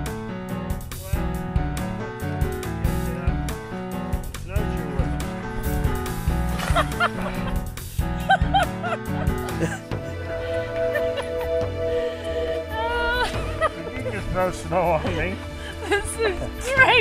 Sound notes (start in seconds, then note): 8.1 laughing